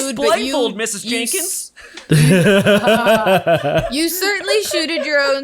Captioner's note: all laughing